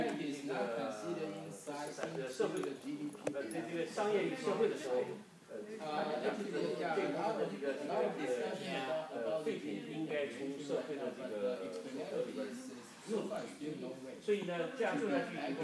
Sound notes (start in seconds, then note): 6.6 speaking foreign language